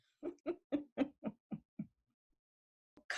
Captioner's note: laughs